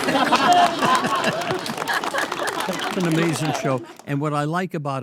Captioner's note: all laugh and clap